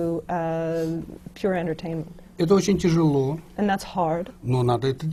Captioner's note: foreign language not transcribed